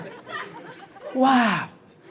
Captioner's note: crowd laughs